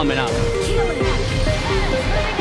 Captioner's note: in English; automated voice